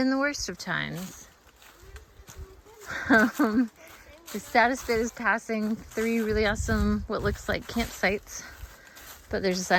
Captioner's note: laughing